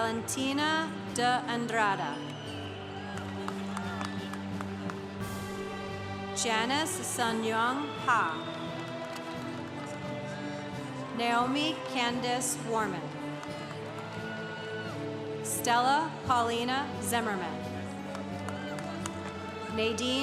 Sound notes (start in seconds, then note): 2.1 congregation cheering; 13.0 congregation cheering; 17.8 congregation cheering